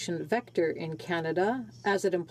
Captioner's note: speaking French